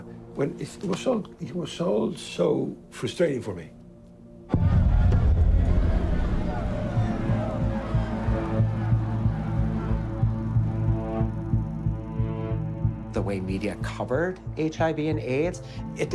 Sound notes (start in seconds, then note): 4.7 tense music; 5.0 protestors shouting